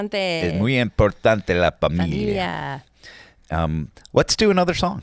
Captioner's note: speaking in foreign language